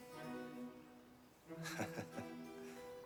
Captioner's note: laughs